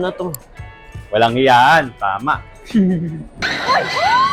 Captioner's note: laughs